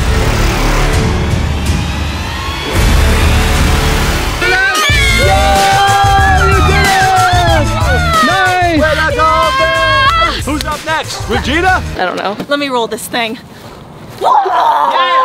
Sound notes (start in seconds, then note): 0.1 suspenseful music; 4.3 cheering loudly